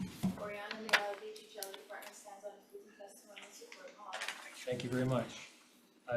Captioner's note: faintly speaking